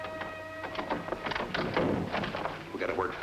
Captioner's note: door latching